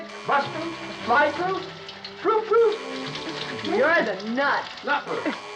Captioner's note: phone Buzzing